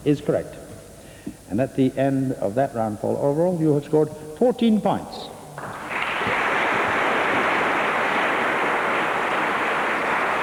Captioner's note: applause